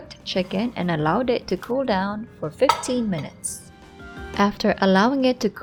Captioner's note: plate thuds